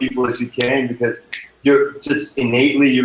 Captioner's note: snapping